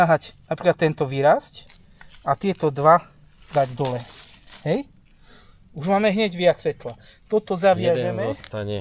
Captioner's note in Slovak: smrkanie